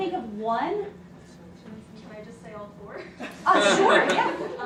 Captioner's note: laughing